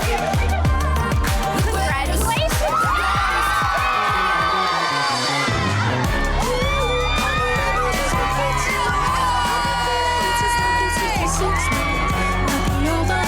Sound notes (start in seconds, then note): 0.2 upbeat music; 3.9 upbeat music; 3.9 women cheering